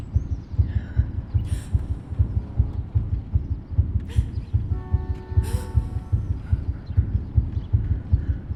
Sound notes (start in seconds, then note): 0.0 accelerating heartbeat; 5.4 car honk, echoed gasp